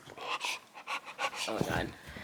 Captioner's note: panting